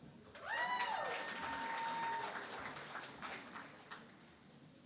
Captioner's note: cheering and Applause